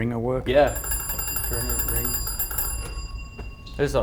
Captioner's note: ring Ring Ring